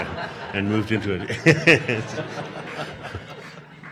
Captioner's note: audience laughing